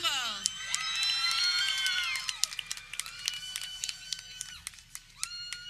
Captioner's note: people cheering